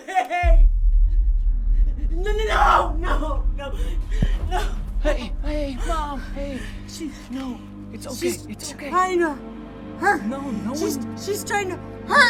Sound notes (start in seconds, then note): 0.1 dramatic music; 3.0 crying